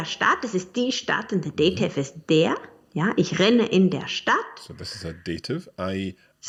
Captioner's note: speaks in foreign language